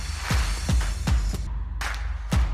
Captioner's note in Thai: ปรบมือ; ปรบมือ